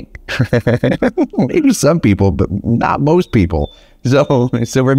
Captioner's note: laughs